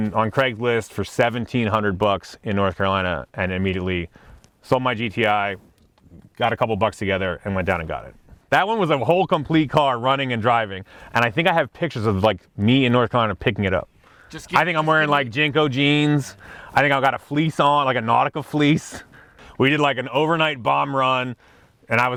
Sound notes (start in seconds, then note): none